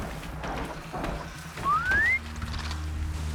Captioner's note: whistle